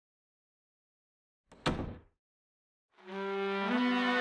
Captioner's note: door shutting